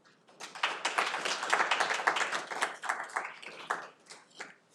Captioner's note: audience applauding